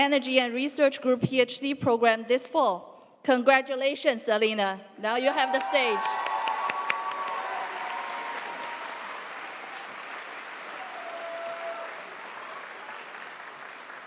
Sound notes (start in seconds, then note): 5.2 audience cheering; 5.3 audience applauding